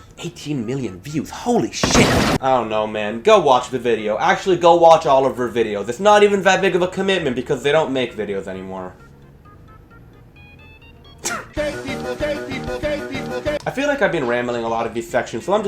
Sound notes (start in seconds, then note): 11.2 cries